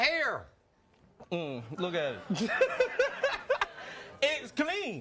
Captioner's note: laughs